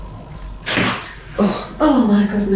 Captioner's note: door opens